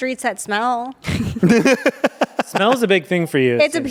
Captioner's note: everyone laughs